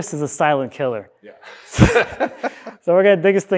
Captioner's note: both laughing